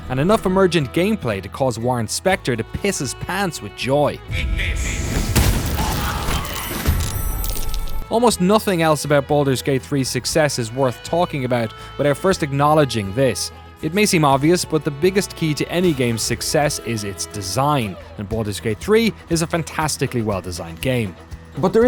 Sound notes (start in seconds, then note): 4.3 explosion booms; 4.4 enemies screaming